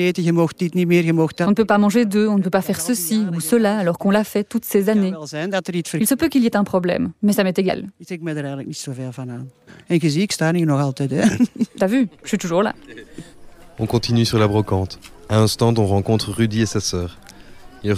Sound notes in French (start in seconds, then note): 11.2 rires